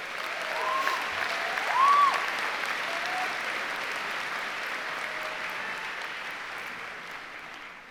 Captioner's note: applause